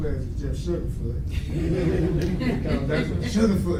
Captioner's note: audience laughs